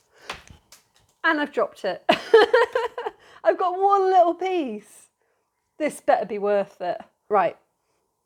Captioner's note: laughing